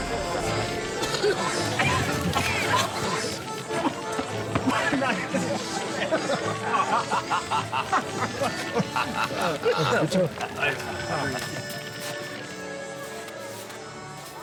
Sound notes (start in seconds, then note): 2.4 coughing; 5.4 non-english speech; 6.2 laughter; 9.1 non-english speech; 13.4 non-english speech